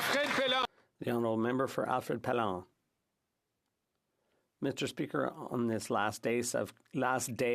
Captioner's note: some Applause